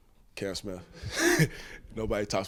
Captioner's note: chuckles